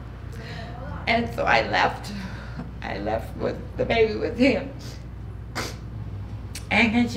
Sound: sniffling

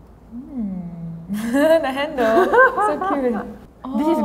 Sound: laughs

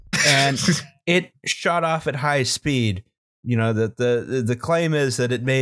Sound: laughter

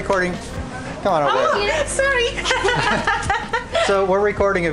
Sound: laughter

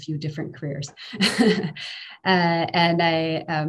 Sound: laughing

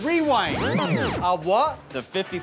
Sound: whirring

